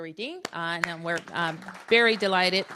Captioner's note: applause